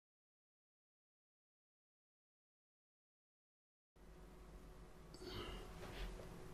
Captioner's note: silence